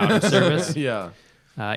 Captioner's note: laughter